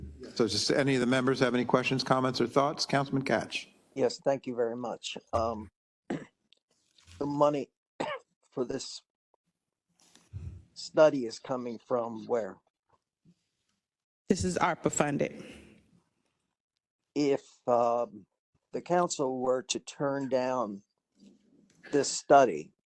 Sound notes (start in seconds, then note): 6.0 cough; 8.0 cough